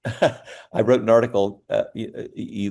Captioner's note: laughs